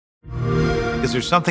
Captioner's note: xbox sound